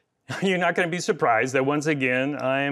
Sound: chuckles

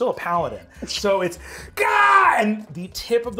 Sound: shouts

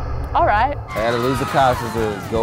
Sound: negative buzzer; bystanders screaming

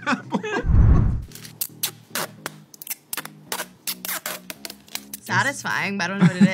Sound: plastic squeaks

